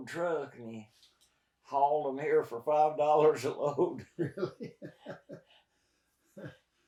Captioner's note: both laugh